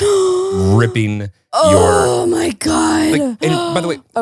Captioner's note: heavy sighing